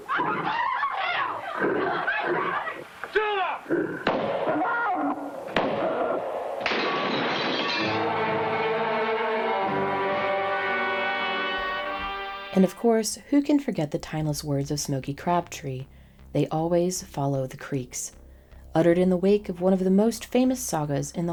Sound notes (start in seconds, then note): 0.0 people screaming; 0.0 woman screaming; 5.4 guns firing; 6.6 glass breaking; 7.6 dramatic music